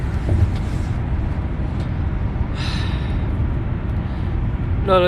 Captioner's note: s i g h